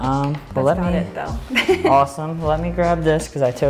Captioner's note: laughs